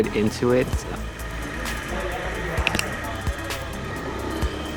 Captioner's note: motor Sound. Click, Click Sound